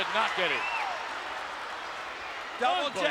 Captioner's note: audience cheering